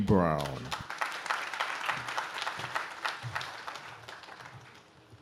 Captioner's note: audience claps